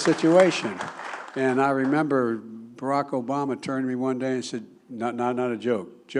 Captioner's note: applause